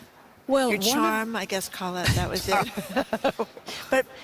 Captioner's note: laughs